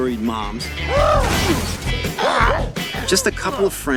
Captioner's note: screaming